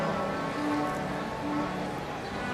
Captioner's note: none